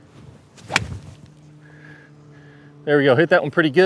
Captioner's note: club whips